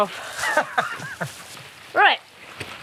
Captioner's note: laughing